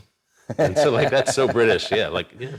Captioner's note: laughs